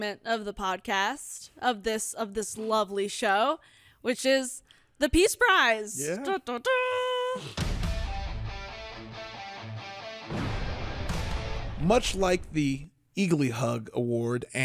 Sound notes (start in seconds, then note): 5.9 vocalizes; 7.5 energetic music